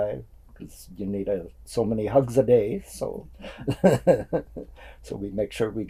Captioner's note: laughs